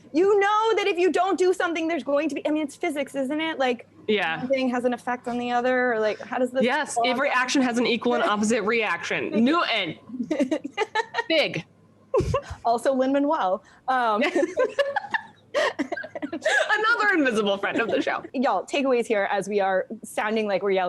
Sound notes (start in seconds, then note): 14.2 both laughing